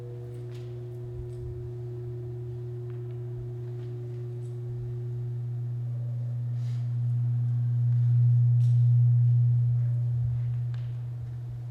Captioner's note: low Whirring